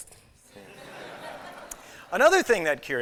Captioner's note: laughter